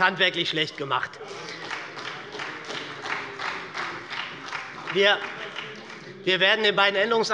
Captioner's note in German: Beifall bei der SPD